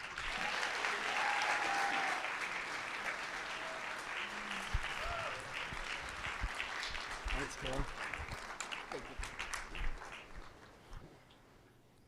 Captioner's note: applause